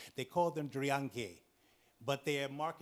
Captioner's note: speaks in foreign language